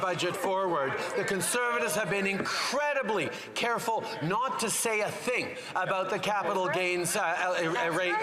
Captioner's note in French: voix de l'interprète